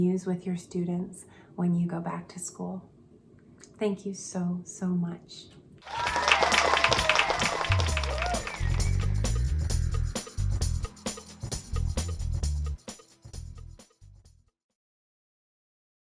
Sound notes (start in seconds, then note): 5.8 crowd cheering; 11.4 upbeat music